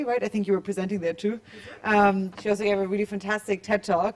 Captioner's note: none